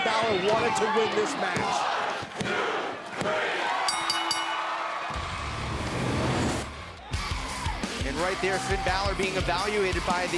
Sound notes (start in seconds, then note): 2.6 crowd cheering; 3.8 bell ringing